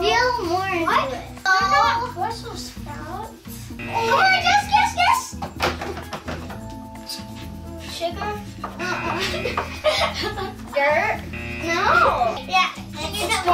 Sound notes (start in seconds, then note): 3.7 buzzer; 11.2 buzzer